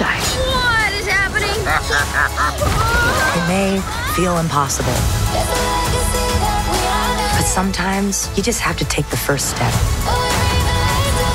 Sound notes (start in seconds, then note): 1.5 Tong laughs; 2.7 screaming